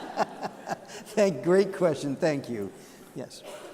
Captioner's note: laughter